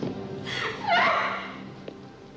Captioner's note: Lisa screams